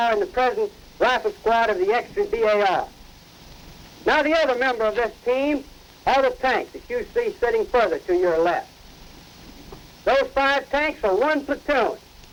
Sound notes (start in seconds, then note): 6.8 speaking faintly